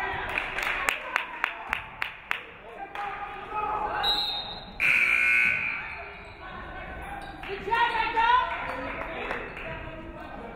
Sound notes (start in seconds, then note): 0.2 audience clapping; 4.0 referee whistles; 4.8 buzzer buzzes